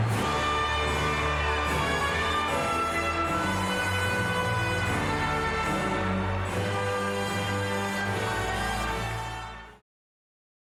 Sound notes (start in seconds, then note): 0.0 crowd cheers and whistles; 0.3 band music continues; 5.4 crowd cheers